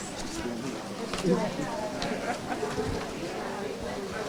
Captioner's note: audience chattering